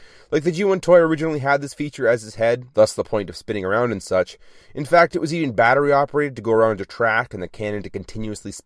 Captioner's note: none